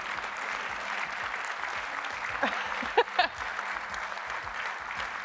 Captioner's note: applause